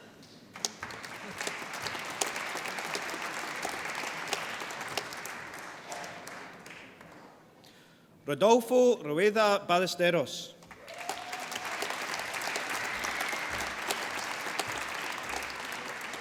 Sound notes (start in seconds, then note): 0.4 applause; 10.6 applause